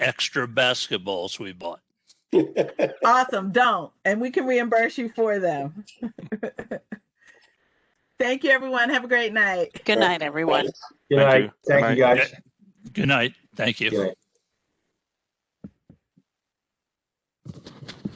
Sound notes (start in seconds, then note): 2.3 laughter; 6.0 laughter